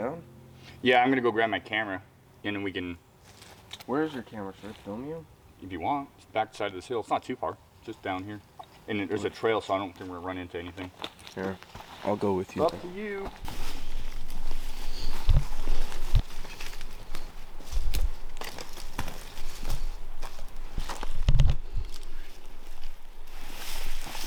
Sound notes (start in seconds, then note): 13.9 brush rustling; 19.0 brush rustling; 19.0 footsteps crunching